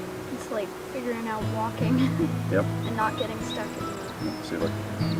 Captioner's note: laughs